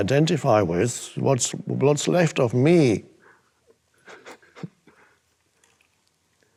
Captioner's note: chuckles